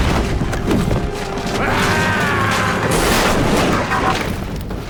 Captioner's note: explosion, shattering wood; thudding against wood, rolling; screams; flaming wood tumbles and breaks; crackling fire